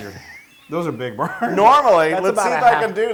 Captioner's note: laugh